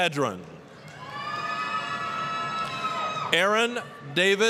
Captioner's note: applause, cheering